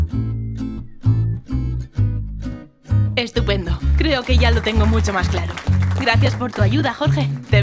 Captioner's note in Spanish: aplausos